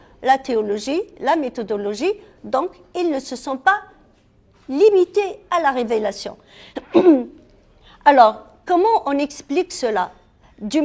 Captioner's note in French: raclement de gorge